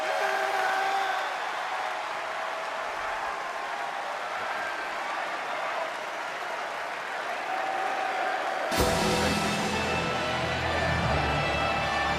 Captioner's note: cheering and applause